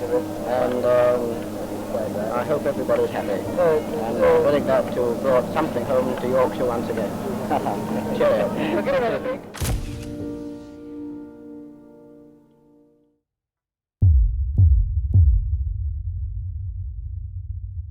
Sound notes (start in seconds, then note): 9.5 camera clicks; 9.5 gentle music